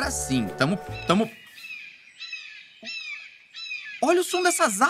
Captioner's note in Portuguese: som de aves